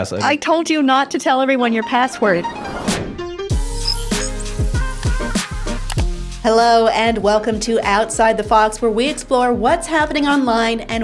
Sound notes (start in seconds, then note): 2.4 smooth uptempo music; 5.8 mouse clicks